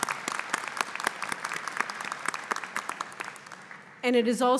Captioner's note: applause